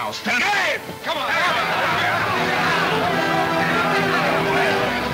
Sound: men yelling simultaneously; dramatic orchestra music

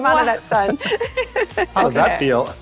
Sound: chuckling

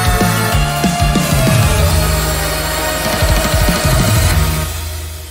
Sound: sonic.exe screaming

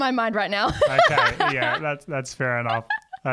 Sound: laughs

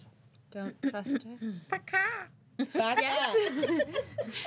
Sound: girl crows like rooster; girls laughing

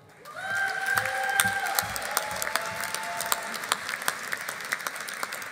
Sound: audience applauding

